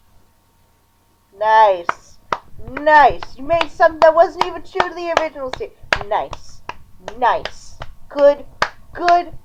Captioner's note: applause